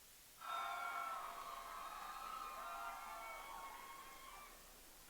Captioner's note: audience cheering